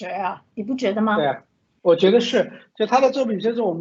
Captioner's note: Mandarin